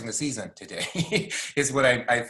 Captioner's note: laughing